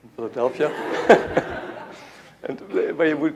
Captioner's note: laughter